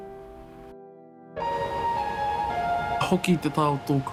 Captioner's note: water splashing